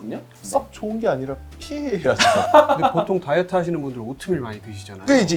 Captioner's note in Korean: 웃음